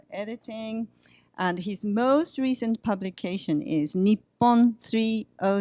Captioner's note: japanese